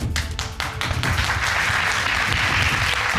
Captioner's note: crowd clapping